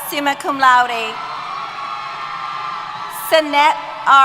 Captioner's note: cheers